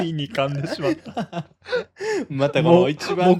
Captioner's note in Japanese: 笑い; 息をのむ音